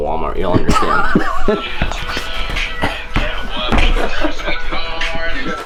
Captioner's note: camera man laughs